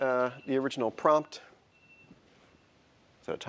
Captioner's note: ringing